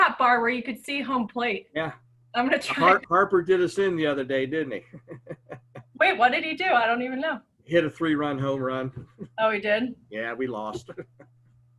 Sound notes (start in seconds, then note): 4.8 laughs